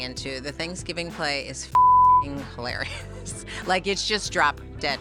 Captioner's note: beep